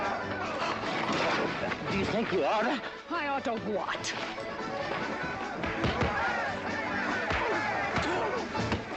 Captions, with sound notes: (EXCLAIMING) Do you think you ought to? I ought to what? (ALL YELLING)